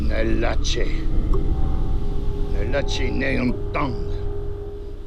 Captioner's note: Lenny speaks foreign language